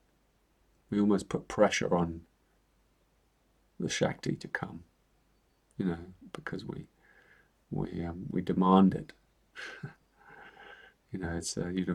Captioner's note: chuckles